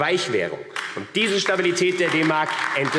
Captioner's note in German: Beifall AfD